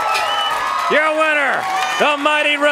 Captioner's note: crowd cheering; bell ringing